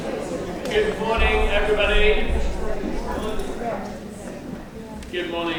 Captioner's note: people chattering